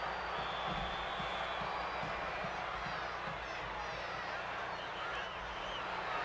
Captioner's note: crowd cheers; whistle blows